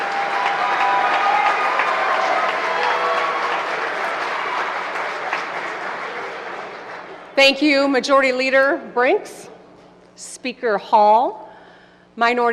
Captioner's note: applause